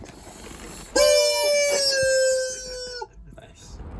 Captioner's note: VERY LOUD rubber chicken noise